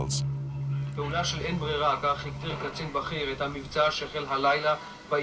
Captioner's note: Hebrew spoken audio